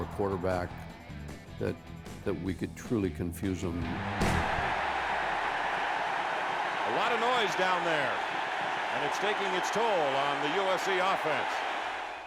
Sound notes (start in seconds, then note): 6.4 cheering